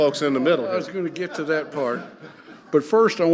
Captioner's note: audience laughing